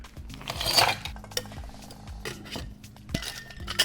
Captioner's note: ice clinks; thuds